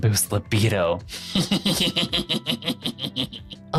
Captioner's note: laughing